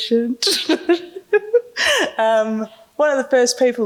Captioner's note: laughing